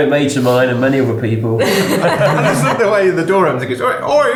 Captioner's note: laughing